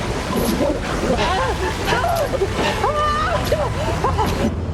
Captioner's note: gasping